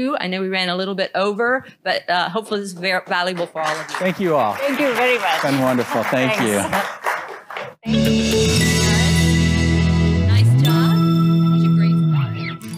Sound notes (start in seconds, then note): 6.8 applause; 7.3 audio logo